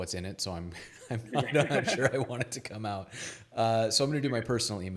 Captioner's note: laughs